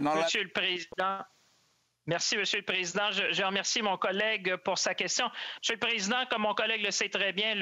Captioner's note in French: voix de l'interprète